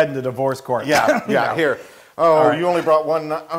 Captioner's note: laugh